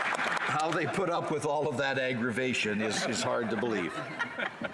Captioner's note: applause